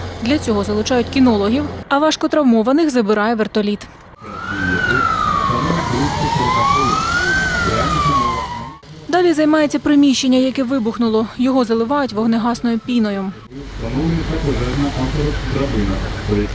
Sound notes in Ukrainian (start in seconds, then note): 4.1 сирена пожежної машини; 13.6 шум піни